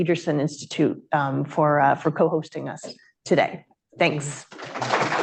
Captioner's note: applause